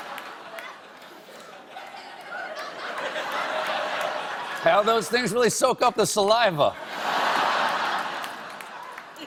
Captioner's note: laughter